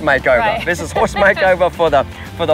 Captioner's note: laughing